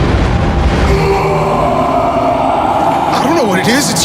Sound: terrifying scream of human-crocodile

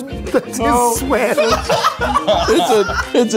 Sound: cackling

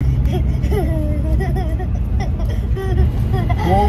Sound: laughing

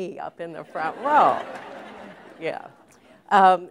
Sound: laughter

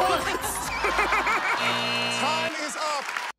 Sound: buzzer

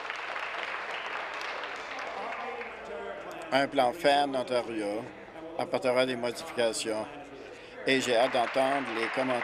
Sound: applause

